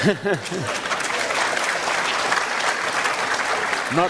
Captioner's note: applause